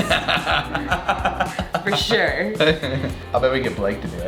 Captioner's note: laughing